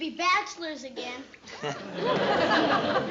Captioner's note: laughter